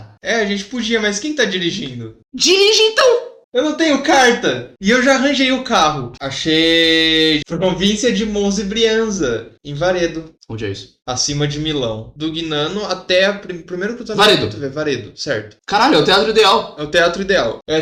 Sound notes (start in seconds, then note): none